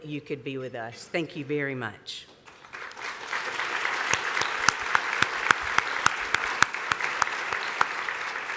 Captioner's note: applause